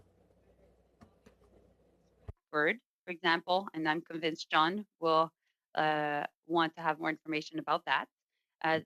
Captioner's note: speaking French